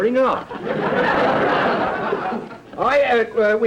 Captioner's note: audience laughter